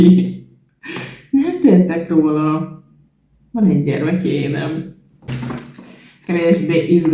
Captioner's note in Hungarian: nevetés